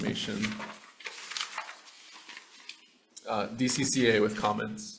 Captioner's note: papers rustling